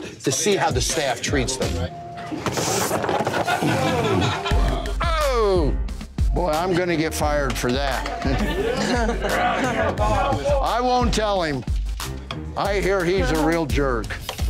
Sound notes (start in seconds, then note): 2.5 glasses clattering; 3.0 patrons laughing